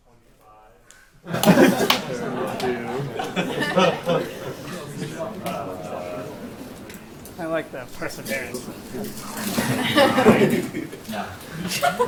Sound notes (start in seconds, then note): 3.2 laughter